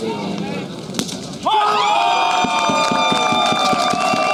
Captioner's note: cheering